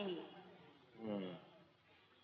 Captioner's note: grunts